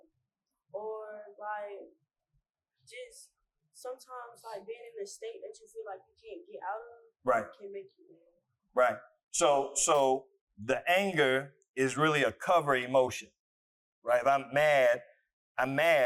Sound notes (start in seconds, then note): none